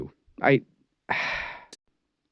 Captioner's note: sigh